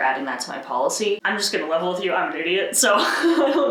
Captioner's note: laughs